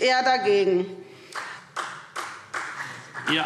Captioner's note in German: Vereinzelter Beifall SPD